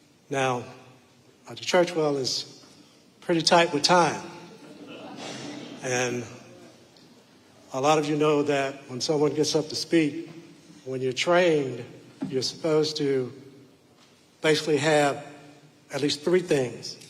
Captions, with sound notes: Now, Dr. Churchwell is pretty tight with time. (audience laughing) And a lot of you know that when someone gets up to speak, when you're trained, you're supposed to, basically have at least three things,